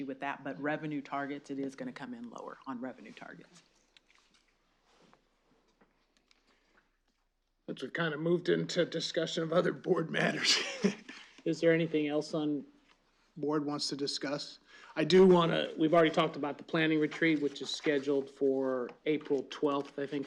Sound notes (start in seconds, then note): 10.2 laughs